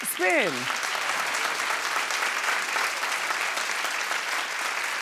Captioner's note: applauding